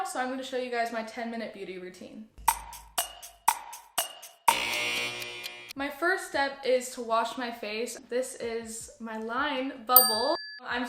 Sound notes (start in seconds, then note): 2.4 countdown timer; 10.0 ding